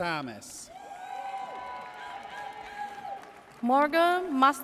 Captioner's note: audience cheers